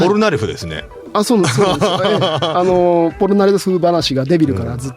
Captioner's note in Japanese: 笑い